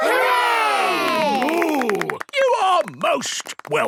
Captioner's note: applause